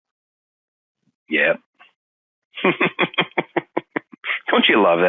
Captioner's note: laughing